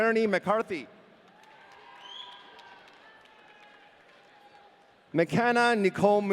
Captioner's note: audience cheering